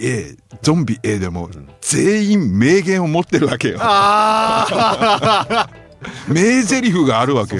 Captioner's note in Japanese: 笑い